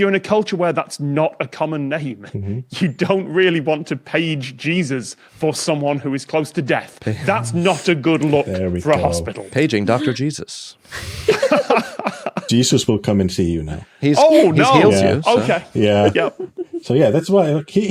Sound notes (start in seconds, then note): 11.0 group chuckling